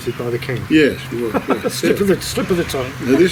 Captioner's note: laughter